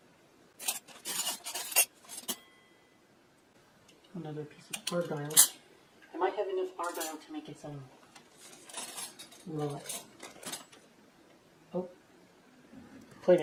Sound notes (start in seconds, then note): 0.6 clanking flatware; 8.4 flatware clinking